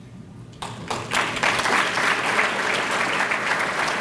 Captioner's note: applause